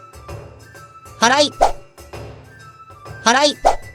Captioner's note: sweeping; sweeping